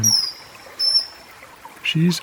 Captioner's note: chirping continues